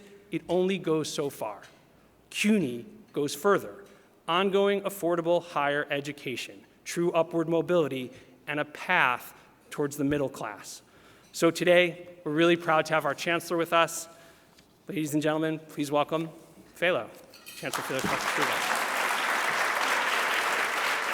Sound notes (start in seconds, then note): 17.6 applause drowns out speaker